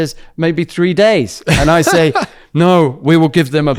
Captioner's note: laughs